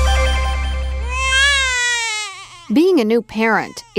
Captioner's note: baby crying